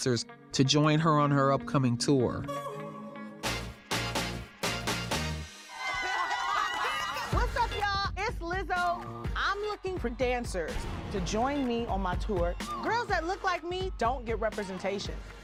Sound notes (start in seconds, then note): 3.2 upbeat music; 5.6 girls cheering